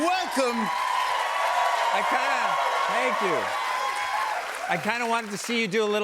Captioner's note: cheers and applause